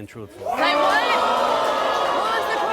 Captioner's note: booing